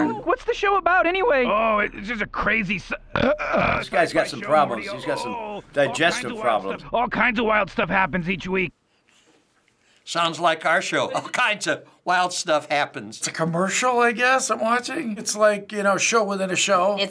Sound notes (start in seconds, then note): 0.0 cries; 3.0 burps